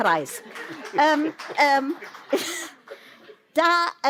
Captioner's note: applause